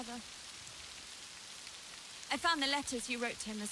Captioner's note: rain spattering